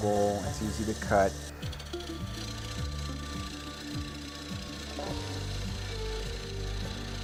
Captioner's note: machine noise